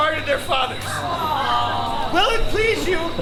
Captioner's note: lovers groaning